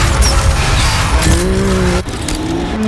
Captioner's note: engines roaring